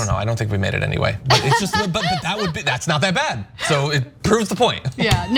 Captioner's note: laugh